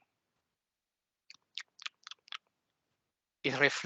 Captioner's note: champing sounds